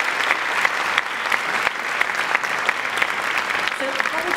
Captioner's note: applause